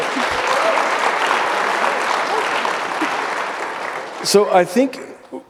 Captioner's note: audience applauding